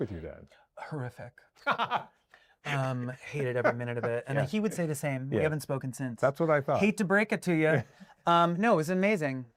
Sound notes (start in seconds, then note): 3.3 laughter